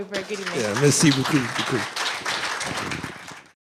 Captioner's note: applause